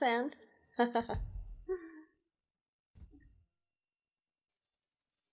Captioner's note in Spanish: Se ríe de su propio chiste